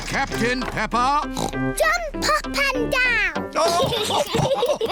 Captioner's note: oinks; all laugh